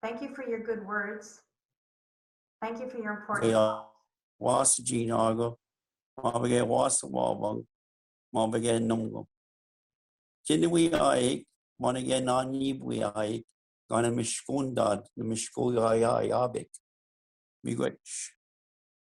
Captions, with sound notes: Thank you for your good words. Thank you for your important- - (speaks in foreign language)